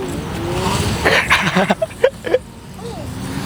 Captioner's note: laughs